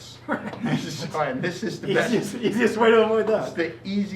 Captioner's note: laughing and conversing